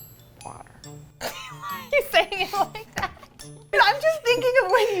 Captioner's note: laughs